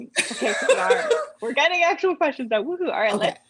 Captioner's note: laughter